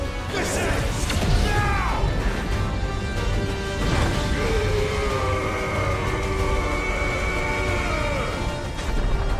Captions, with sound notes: This ends now. (intense music) (grunting)